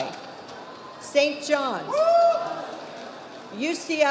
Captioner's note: man cheers